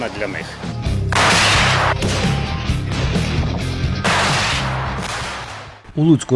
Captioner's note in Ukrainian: Звуки пострілу РПГ